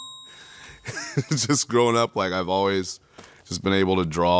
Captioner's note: laughs